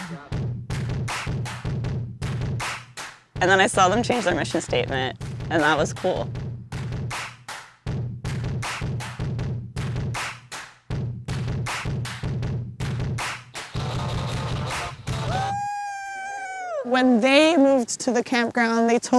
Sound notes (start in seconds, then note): 5.4 upbeat music continues; 15.2 excited cheering